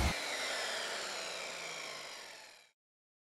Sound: saw screeching

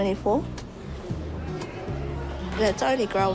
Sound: crowd chatters indistinctly

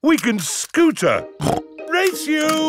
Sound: snorts

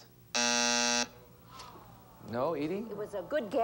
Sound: buzzer sounds

